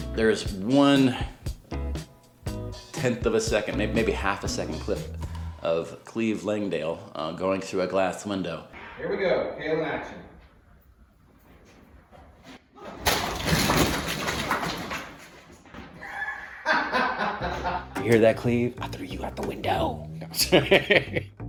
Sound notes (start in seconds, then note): 12.9 window breaks; 16.1 director laughs; 20.3 laughs